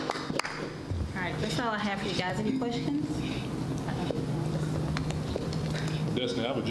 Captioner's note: applause